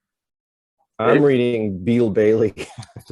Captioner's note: brief laughter